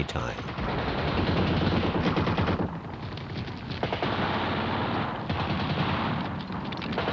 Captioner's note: gunfire